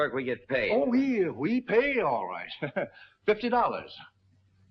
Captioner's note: laughs